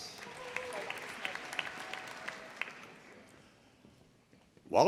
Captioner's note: audience applauding